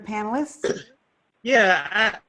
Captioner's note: cough